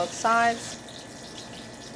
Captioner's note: sizzling